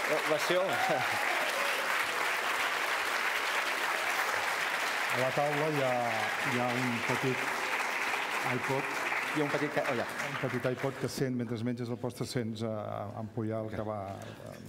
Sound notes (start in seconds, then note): 1.9 speaking catalan; 6.3 speaking catalan; 12.1 speaking catalan